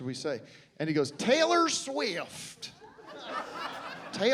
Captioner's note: southern accent